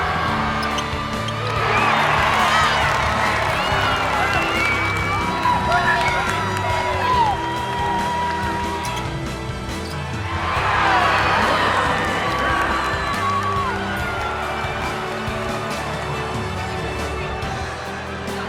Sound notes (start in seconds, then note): 0.3 cheers and applause; 10.6 cheers and applause